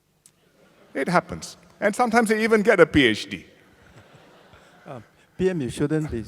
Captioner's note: laughter